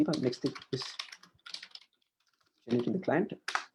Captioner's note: keys clicking